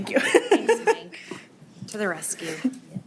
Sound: laughing

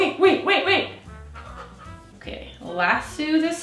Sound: rapid breathing

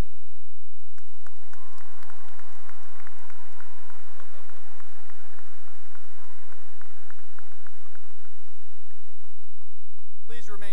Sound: cheering and applause

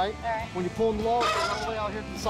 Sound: horn honks

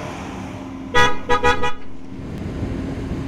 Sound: car honks

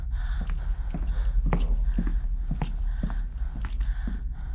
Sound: Sarah breathes heavily

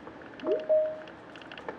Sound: video call ping

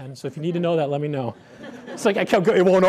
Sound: laughter

